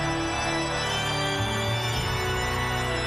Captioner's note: audience continues cheering; ominous music continues